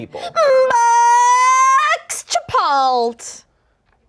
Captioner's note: yells